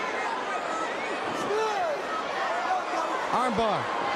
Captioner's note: crowd cheering